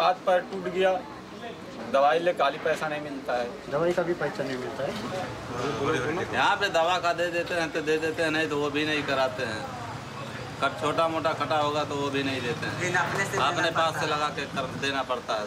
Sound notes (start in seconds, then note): none